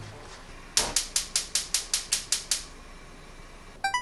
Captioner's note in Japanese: コンロを点火する音